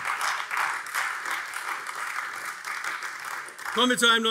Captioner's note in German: Beifall AfD